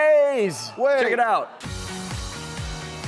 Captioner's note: audience sighs shocked; upbeat music